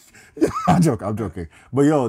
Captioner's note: laughing